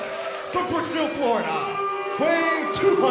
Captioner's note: crowd cheering